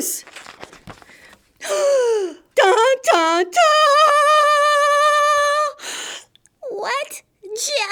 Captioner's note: gasp!